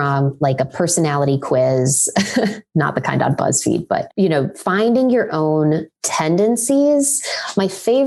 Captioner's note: laughs